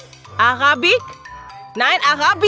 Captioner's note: speaking German